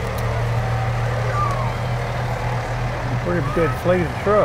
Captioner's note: engine revs